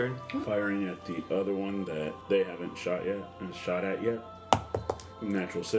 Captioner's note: dice roll